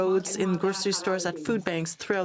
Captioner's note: speaking French